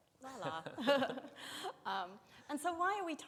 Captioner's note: both chuckling